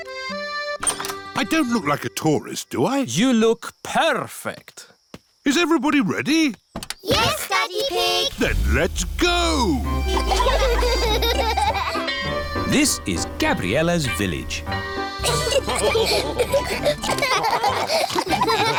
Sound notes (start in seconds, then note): 9.9 giggling; 15.2 all laugh